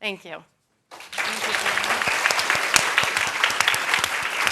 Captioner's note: applause